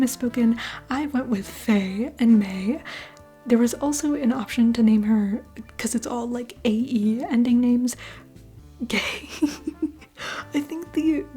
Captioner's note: laugh